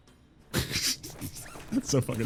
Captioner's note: quiet laugh